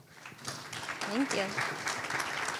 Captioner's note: applause